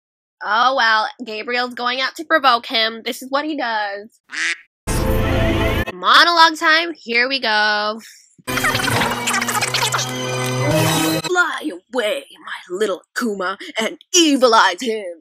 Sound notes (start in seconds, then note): 4.3 quack